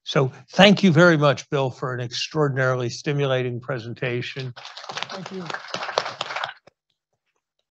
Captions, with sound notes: So thank you very much, Bill, for an extraordinarily stimulating presentation. (audience applauding) - Thank you.